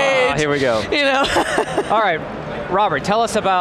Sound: chuckles

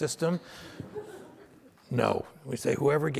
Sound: audience laughter

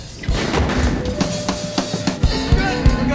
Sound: thuds; guitar strumming; drum banging

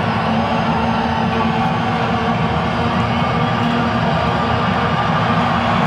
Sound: background cheers

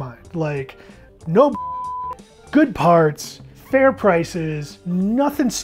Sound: beep

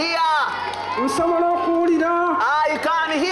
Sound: speaking local language

